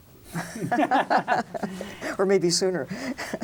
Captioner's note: both laugh